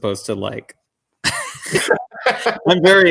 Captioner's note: chuckle